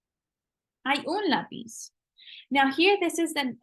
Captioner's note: spanish